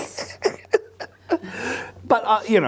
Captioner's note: both laughing